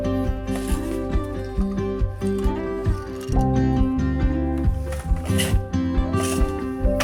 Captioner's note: bright music continues; looms shafts clacking